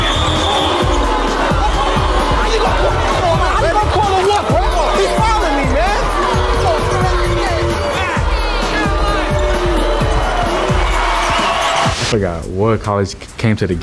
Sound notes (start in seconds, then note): 0.3 audience cheering; 2.2 players arguing